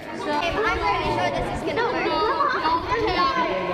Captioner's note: students chatting